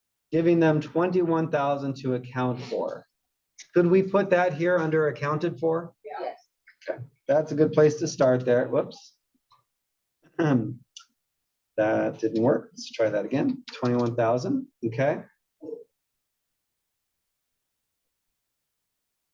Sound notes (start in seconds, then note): 9.5 cough